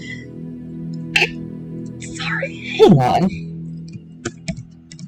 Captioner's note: snort